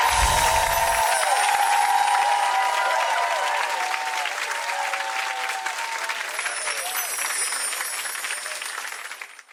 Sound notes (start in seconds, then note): 0.0 wind chimes tinkling; 2.4 audience cheering; 6.4 wind chimes tinkling